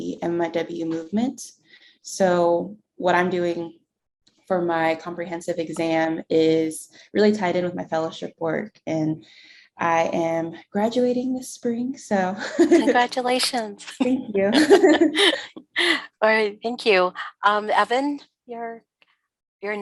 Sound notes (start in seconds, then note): 14.5 laughter